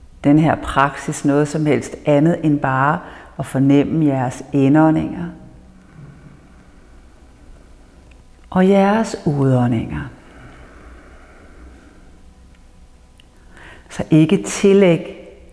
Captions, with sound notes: this practise with anything else but to notice your inhales (inhales) - and your exhales (exhale) So, do not attribute -